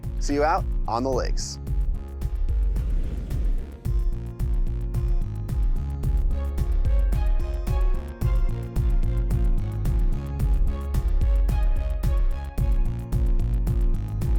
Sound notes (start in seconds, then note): 1.9 upbeat music; 2.7 screen whooshes